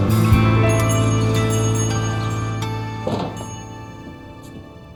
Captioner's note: bell ringing